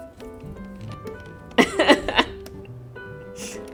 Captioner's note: laughs